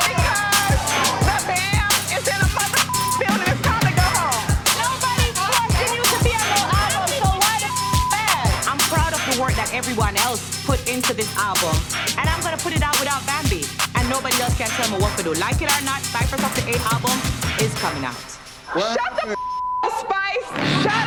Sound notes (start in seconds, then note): 0.0 beep; 2.6 beep; 7.4 beep; 19.2 beep